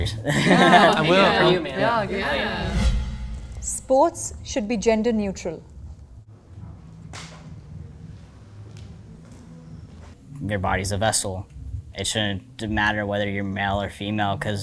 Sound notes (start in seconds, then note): 0.2 everyone laughing; 7.1 people walking